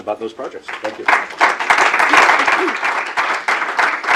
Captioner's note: audience clapping